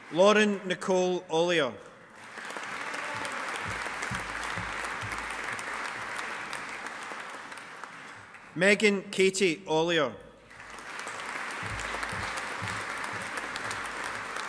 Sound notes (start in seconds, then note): 2.1 audience applauding; 10.4 audience applauding